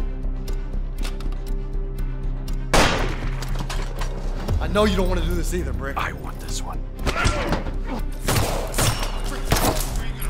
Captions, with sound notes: (gunshot) - I know you don't want to do this either, Brick. - I want this one. (gunshots)